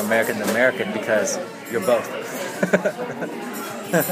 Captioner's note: laughs